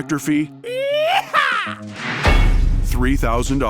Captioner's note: exciting sound